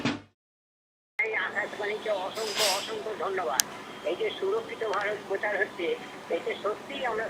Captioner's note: radio playing